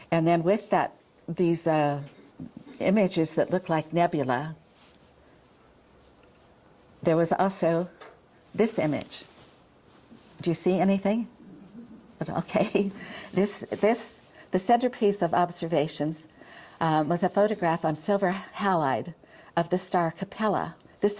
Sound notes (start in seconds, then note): 12.4 chuckles